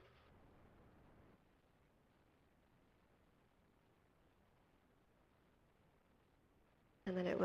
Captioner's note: pause